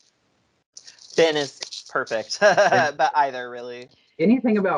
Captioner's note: laughs